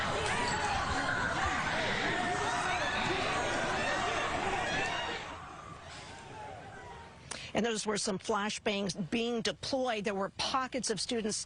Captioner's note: shouting